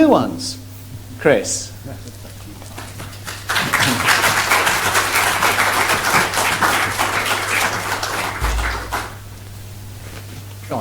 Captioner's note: applause